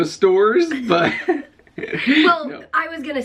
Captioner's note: chuckling